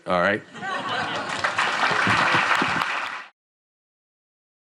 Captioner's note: applause